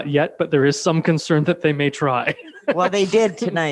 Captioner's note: laughs